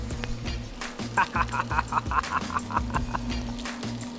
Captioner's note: laughs